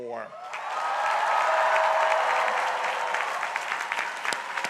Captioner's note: crowd cheering